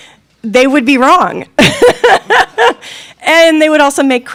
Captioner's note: laughing